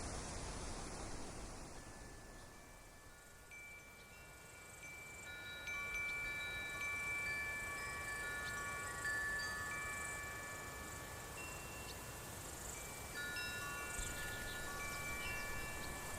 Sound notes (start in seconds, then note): 2.7 gentle wind chimes in the oak tree